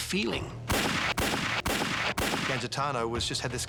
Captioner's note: gunshots